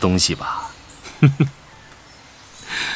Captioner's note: ZZS Chuckles